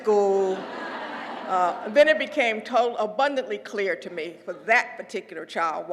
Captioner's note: laugh